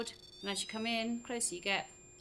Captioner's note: REM pod chirrups; REM pod squeals